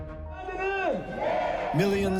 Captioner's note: shouting